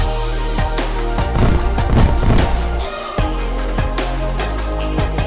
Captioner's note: fireworks popping; upbeat music continues